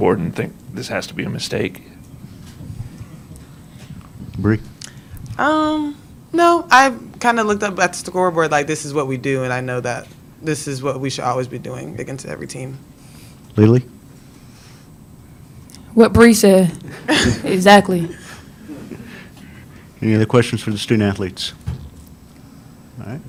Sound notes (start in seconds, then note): 16.8 laughs